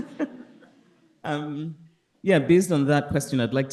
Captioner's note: all laughing